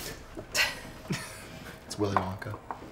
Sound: both chuckle

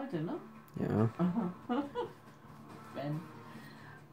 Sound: laughs

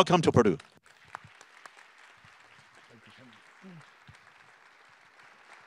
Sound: attendees clapping

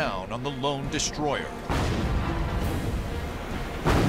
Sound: explosions

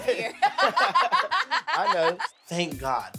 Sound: laughs

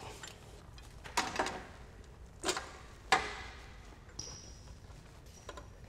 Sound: metal clangs

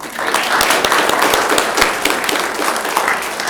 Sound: applause

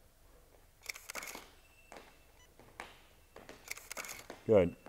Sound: camera shutter clicks

